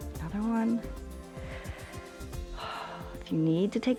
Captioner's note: inhales and exhales